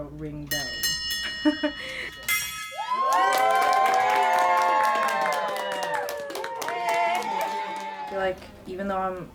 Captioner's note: bell ringing